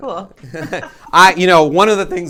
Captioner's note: laughing